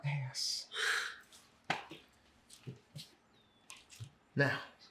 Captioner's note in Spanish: Jonathan suspira